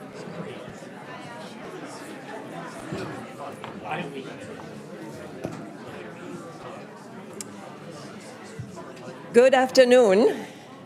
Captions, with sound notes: (crowd chattering indistinctly) - Good afternoon.